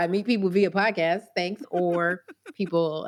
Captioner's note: laughs